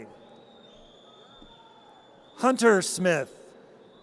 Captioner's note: audience cheers